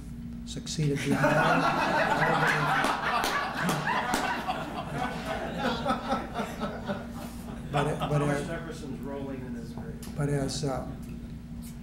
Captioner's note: laughter